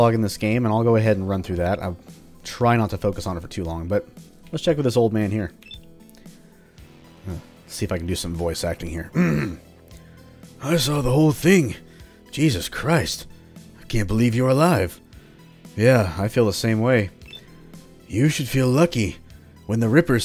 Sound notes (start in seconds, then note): 9.1 clears throat